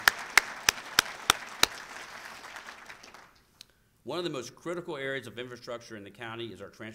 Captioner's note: applause